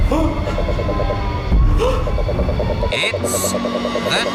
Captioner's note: gasps